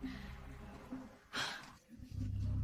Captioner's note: sighs